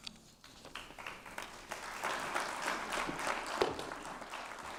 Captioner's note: applause